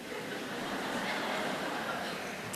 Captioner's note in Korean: 청중 웃음